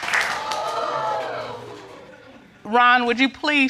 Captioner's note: audience exclaims